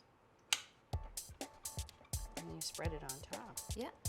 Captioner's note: egg cutter clicks; upbeat music